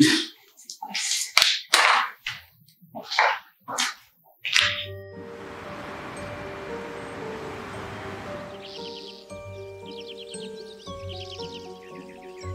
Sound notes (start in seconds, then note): 0.1 Kate scoffs; 4.8 mysterious music; 5.0 traffic humming; 9.6 birds chirping